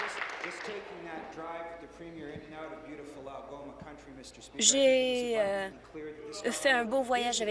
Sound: applause

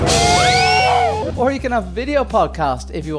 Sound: screams

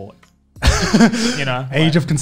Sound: laughing softly

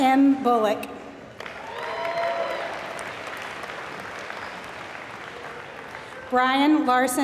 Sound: applause

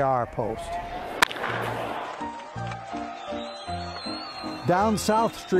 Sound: audience cheering; upbeat music

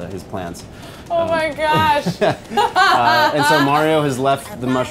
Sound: laughs

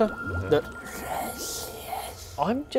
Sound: hisssss

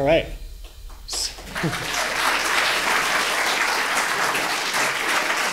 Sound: audience clapping

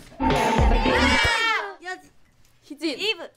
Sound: all exclaim

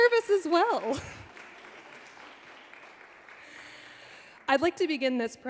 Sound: audience clapping

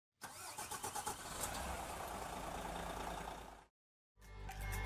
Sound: coach engine starts

